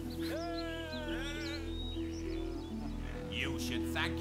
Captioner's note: cheering